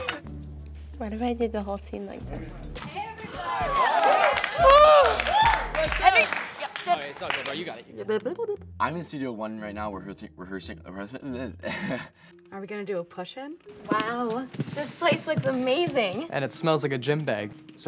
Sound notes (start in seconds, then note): 3.4 shrieks; 11.2 laughs